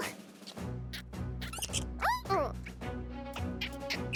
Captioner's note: animal noises